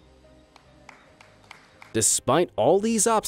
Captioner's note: audience clapping